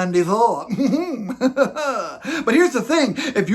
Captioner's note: laughs